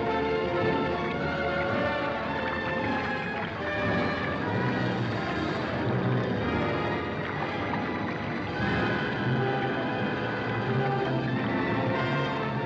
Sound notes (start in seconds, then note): 0.0 sinister ominous music; 0.1 liquid bubbling